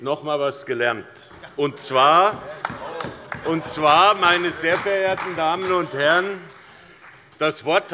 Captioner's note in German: Demonstrativer Beifall bei Abgeordneten der CDU